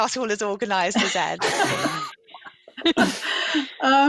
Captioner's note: laughter